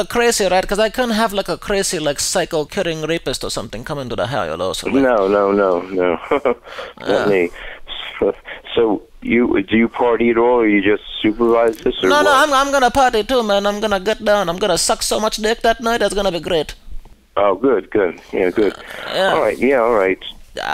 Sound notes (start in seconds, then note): 5.8 laughs